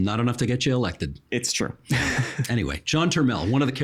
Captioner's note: laughing